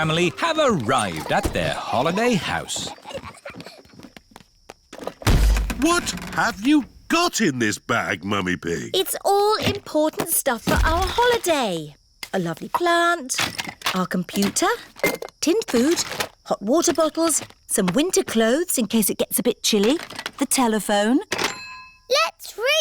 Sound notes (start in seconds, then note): 3.6 peppa and george giggling; 5.2 thud